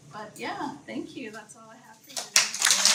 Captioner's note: applause